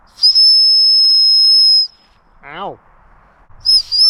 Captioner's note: whistle blowing; whistle blowing